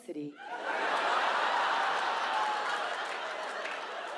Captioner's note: audience laughs